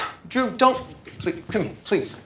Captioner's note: sighs